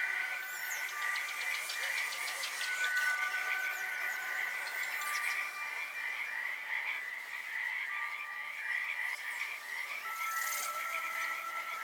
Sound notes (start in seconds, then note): 0.7 birds chirping